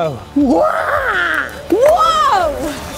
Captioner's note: excited Noises